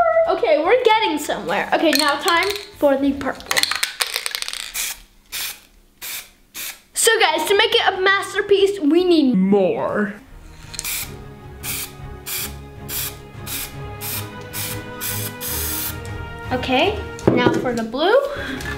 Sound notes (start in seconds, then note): 10.2 dramatic music; 10.5 spray paint oozing